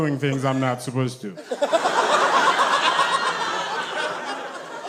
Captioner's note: audience laughs